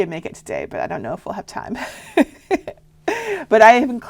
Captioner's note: laughing